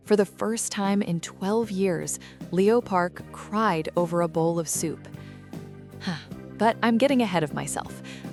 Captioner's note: sigh